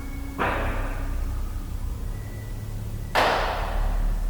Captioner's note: knocks thudding